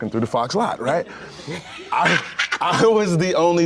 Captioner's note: laughs